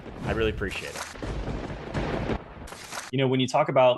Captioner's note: lightning strike